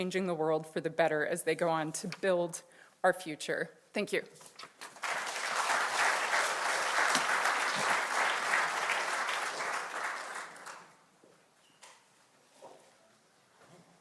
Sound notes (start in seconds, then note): 7.6 audience applauding